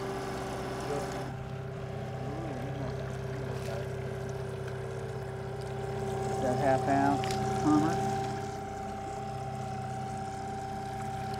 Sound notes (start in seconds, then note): 6.1 trolling motor humming; 7.7 fish splashing; 11.1 trolling motor humming